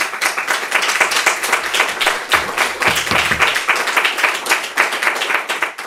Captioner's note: applause